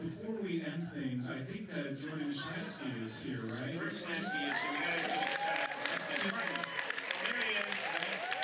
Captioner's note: applause